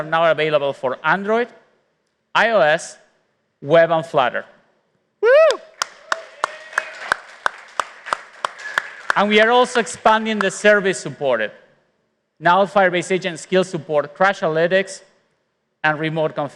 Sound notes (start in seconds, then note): 5.5 applause